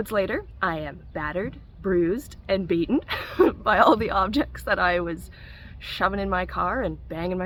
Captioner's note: laugh